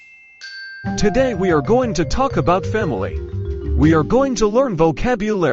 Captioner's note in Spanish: campana